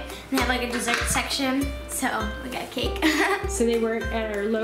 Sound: laugh

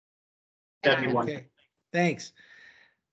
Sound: group chattering

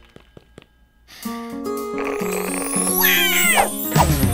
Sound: inhales; soft guitar music playing; squeals

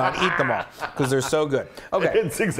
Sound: laugh

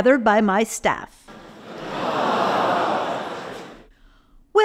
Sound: crowd moans

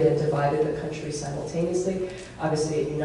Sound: none

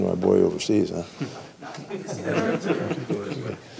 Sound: laughing

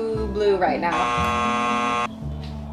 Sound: buzzer buzzing

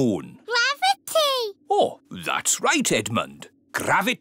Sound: none

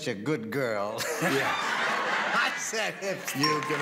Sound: laughs

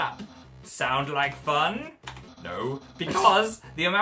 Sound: snorts

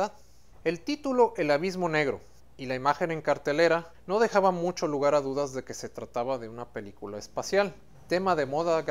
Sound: Spanish

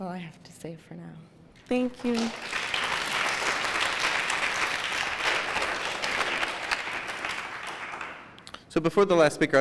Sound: applause

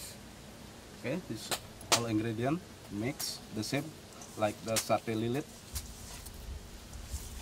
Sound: chef speaking

